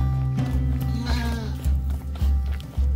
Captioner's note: bleating